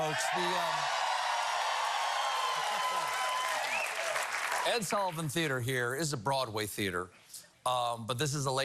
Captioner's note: cheers and applause